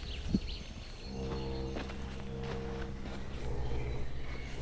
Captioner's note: birds chirping